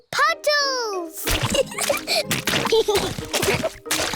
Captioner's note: oinks; both giggling